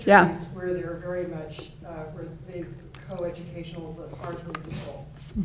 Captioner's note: faintly speaking